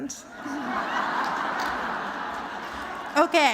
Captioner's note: laughter